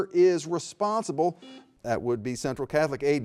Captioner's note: buzzer buzzing